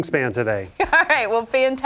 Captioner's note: laughs